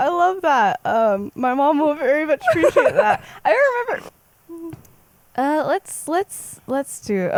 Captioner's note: laughs